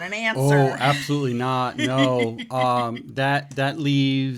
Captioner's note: laughs